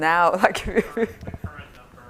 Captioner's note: laughs